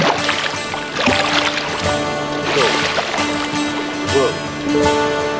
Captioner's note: fish splashing